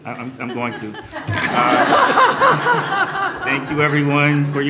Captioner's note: laughter